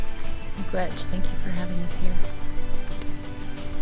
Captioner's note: speaking in foreign language